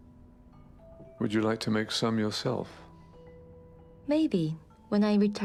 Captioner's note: voiceover